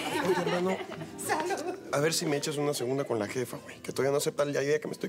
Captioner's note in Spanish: risas